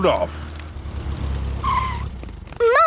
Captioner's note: tires screeching